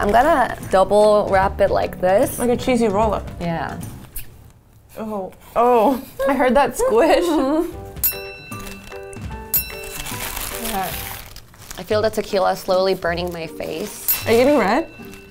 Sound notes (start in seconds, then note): 8.0 bell ringing